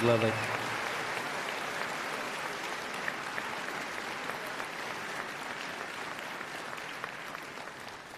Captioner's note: applause